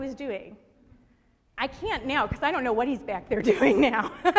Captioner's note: laughter